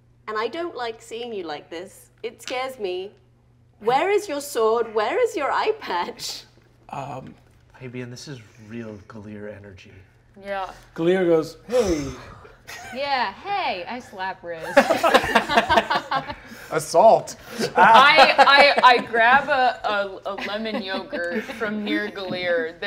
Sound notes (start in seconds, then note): 14.7 all laugh; 17.4 laughing